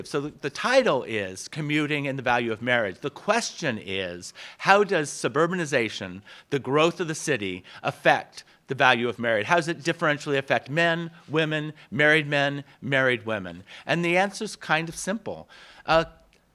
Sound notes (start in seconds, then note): none